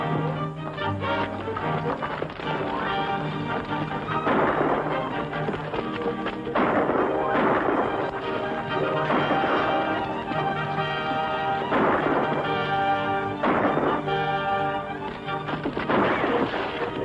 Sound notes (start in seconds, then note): 5.0 gunshots; 15.0 gunshots